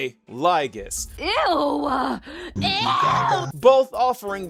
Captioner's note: disgusted noises